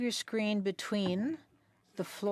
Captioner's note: speaking French